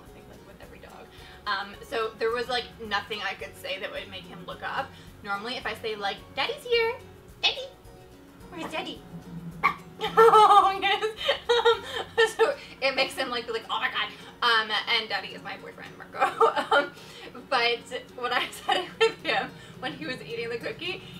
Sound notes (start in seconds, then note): 9.6 dog barks; 9.9 laughs